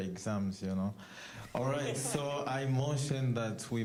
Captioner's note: all chuckling